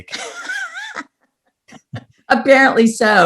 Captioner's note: laughs